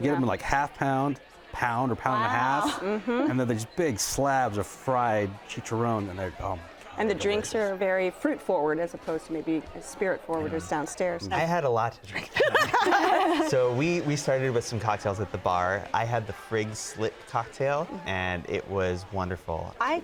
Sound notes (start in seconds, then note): 12.3 everyone laughs